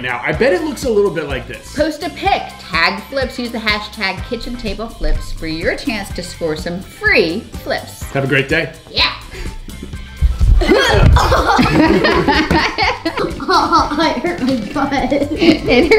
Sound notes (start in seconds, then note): 10.3 grunts; 10.6 laughter